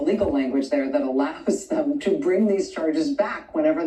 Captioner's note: laughs